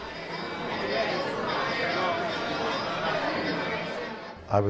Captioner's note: crowd murmuring